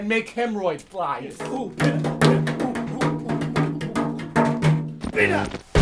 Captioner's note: water jug drumming